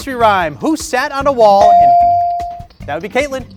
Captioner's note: bell dings